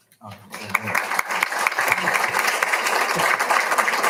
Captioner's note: all applauding